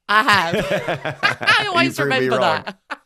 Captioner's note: laughing